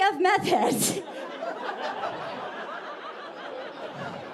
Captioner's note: audience laughing